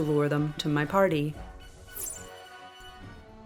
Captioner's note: arrow whistle